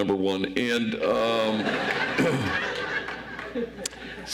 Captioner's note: audience laughs